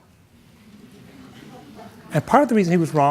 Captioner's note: audience murmuring